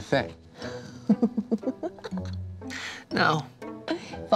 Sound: laughter

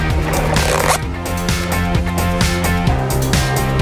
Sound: zipper scraping; upbeat music continues

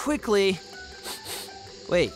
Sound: sniffing

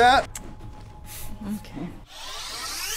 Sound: tongue click; sighes; energy charging sound

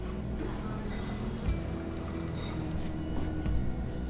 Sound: sound of water pouring

